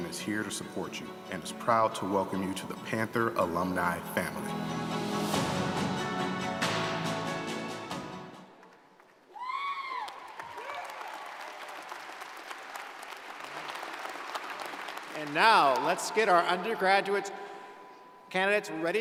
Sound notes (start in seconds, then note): 4.7 bright music; 9.2 crowd cheering